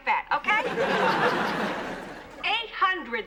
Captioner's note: laughter